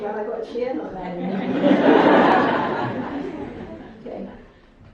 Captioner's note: audience laughs